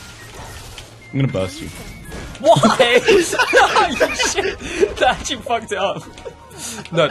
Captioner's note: laughing